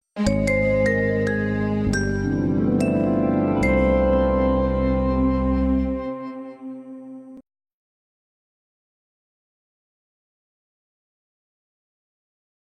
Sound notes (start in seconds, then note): 0.3 remastered wondrous chime playing; 8.2 silence